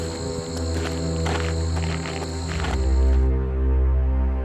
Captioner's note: footsteps